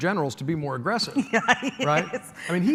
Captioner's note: laughs